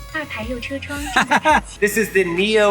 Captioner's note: car speaking in Chinese; laughs